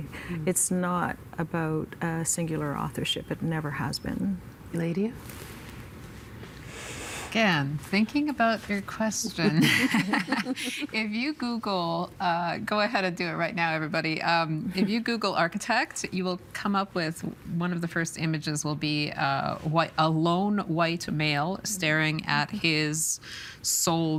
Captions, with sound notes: It's not about singular authorship. It never has been. Eladia? Again thinking about your question. (Laughing) (Chuckling) If you Google, go ahead and do it right now, everybody. If you Google architect, you will come up with one of the first images will be a lone white male staring at his sole drawing board.